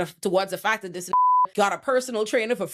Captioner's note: beep